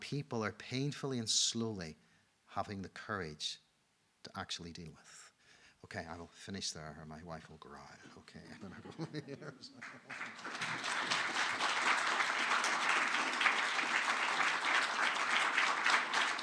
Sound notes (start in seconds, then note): 8.4 laughs; 9.6 audience applauding